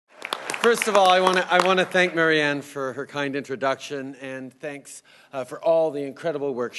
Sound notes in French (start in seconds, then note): 0.1 Rires et applaudissements